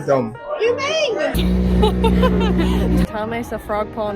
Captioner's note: laugh